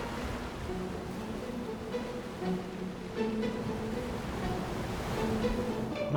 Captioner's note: gentle music; waves crashing